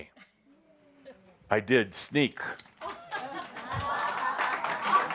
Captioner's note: audience applause